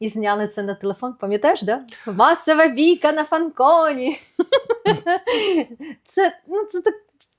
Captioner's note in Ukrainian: сміх